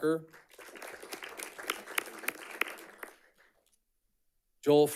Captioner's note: audience clapping